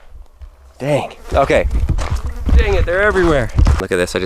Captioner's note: buzzing